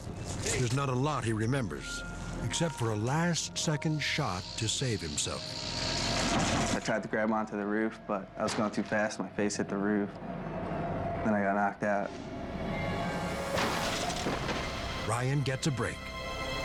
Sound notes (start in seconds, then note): 13.5 loud thud